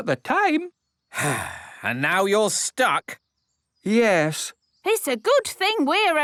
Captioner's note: sigh